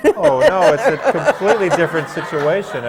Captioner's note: laughter